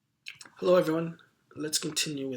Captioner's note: voiceover